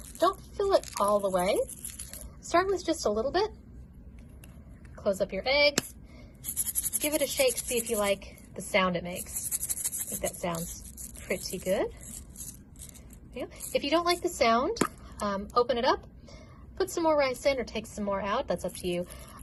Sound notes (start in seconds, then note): 6.4 egg rattling; 11.9 more egg rattling